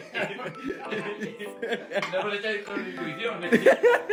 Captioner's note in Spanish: Risas